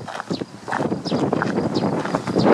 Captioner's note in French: bruit de vent